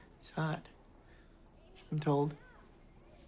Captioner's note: none